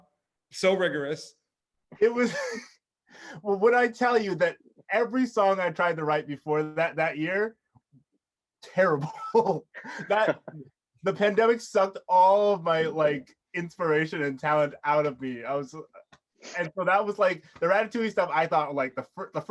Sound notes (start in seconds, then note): 9.0 chuckles